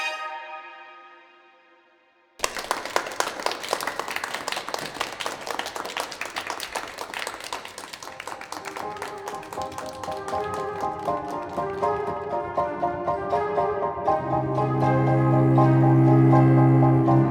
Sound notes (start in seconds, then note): 2.4 clapping